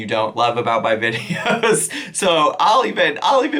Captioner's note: chuckles